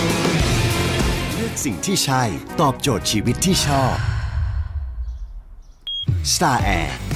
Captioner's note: sigh